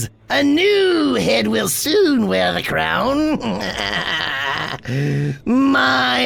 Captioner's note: laughs